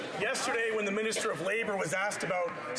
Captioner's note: some Applause